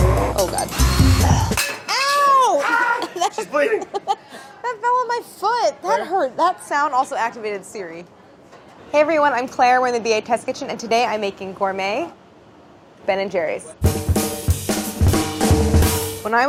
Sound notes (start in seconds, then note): 4.7 laughs; 13.8 lively music